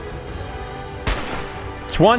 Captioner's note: blam!